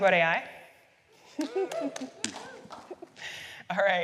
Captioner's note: applause